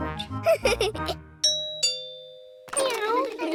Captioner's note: giggles; doorbell